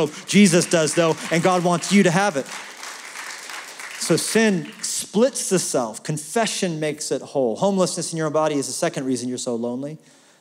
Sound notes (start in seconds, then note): 2.7 applause